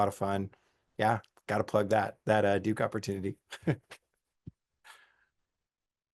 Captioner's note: laughs